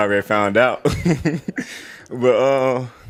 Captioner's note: laughs